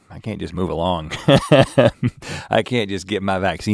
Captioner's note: Rhett guffaws